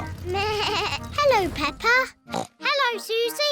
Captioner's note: horn beeps; bleats; snorts